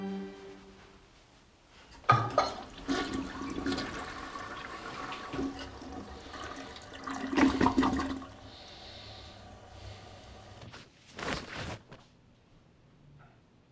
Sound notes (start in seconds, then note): 2.4 toilet flushing